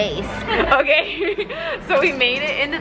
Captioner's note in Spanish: se ríe